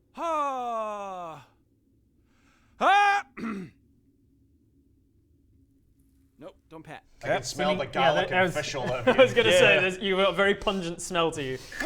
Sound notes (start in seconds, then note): 3.3 ahem